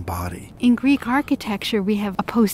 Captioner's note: voiceover